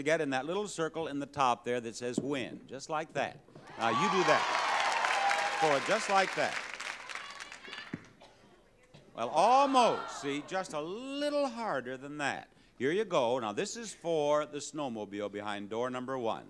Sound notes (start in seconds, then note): 3.6 audience cheering; 7.8 ball plopping